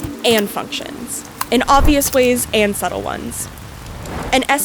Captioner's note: rain sound